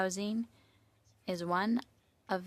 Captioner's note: speaking French